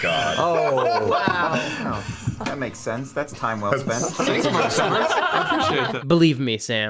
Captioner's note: laughter